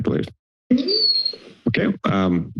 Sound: microphone feedback

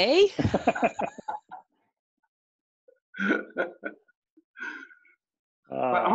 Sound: laughter

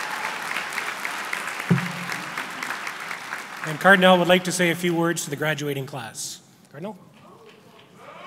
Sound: applause

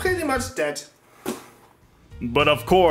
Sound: clipboard Slam

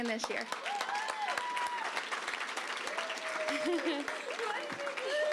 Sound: applause, cheering

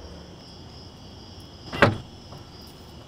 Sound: trunk opens

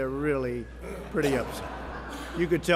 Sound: laughter

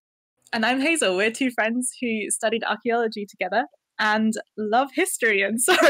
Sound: laughing

